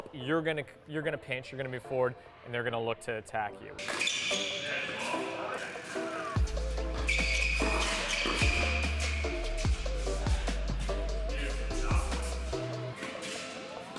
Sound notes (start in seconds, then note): 3.7 shoes squeak; 5.5 upbeat music; 7.0 shoes squeak